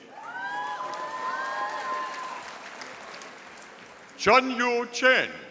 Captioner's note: audience applauding